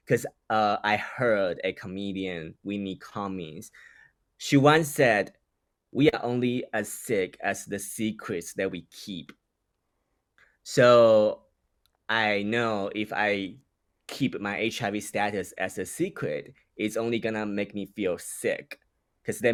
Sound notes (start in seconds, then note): none